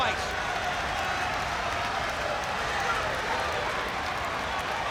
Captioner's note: crowd chattering